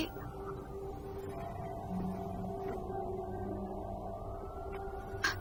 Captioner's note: distant sirens approaching